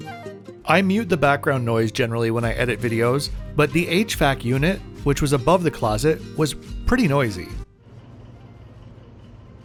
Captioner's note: hvac